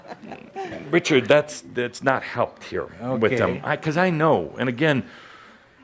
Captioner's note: laughter